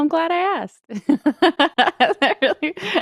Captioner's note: laughs